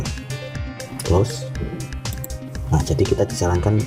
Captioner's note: click